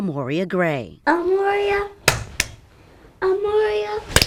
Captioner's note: hands clapping